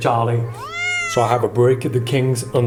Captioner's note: cat meows